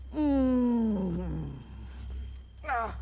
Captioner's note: sighs